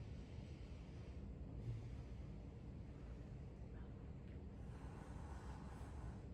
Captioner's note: breathing